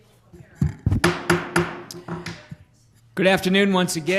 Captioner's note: gavel banging